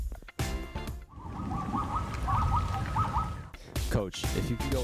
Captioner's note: wild animals ululating